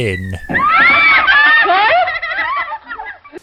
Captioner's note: kids laugh